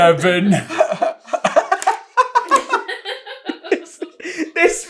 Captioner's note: giggles